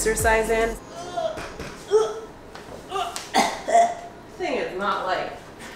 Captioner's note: grunting